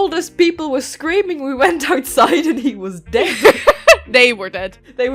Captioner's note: laughter